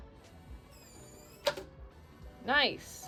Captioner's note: Eufy lock whirs; lock thuds